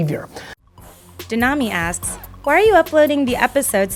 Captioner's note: voiceover